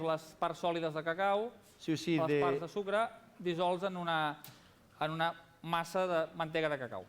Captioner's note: non-english speech